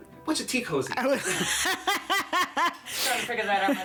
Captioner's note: laughs